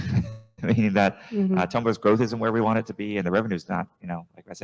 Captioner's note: chuckles